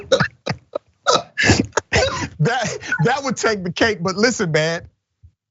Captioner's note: laugh